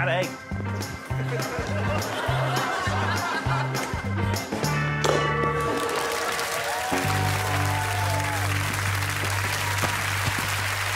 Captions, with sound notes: Thirty seconds. I've lured you with a bad egg. [bell rings] [audience clapping and cheering]